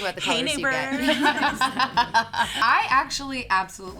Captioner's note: all laughs